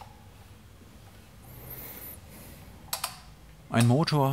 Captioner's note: slow creaking; audible breaths